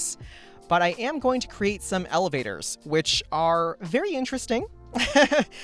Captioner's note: laughs